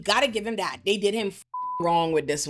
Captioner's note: beep